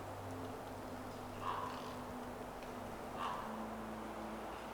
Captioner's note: A bird caws